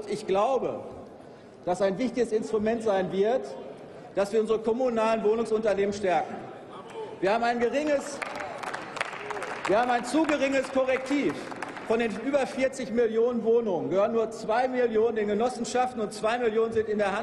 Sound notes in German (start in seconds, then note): 7.7 Applaus